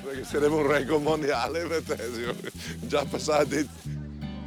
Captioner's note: speaking in Italian